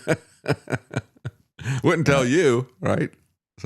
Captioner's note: laughs